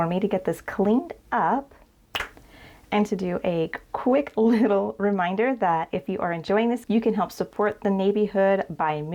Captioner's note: snaps finger